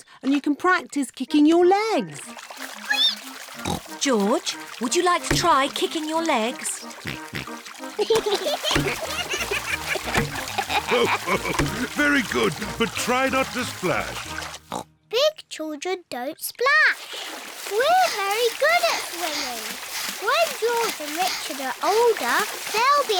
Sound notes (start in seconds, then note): 3.0 squeaks; 6.9 oinks; 8.1 both giggle; 10.9 laughs; 14.6 oinks